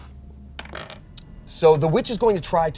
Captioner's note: die rolls